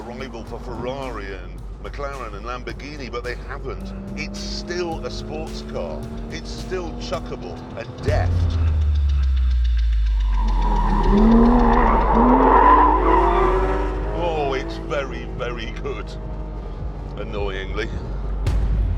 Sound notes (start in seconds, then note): 11.1 tyres screeching